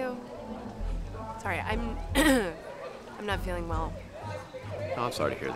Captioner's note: clears throat